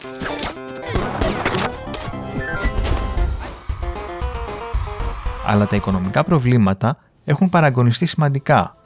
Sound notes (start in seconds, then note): 3.4 cheers